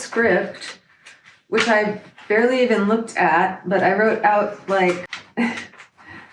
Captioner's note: laughs